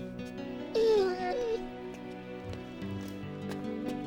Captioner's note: whining